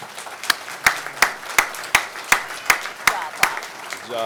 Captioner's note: applause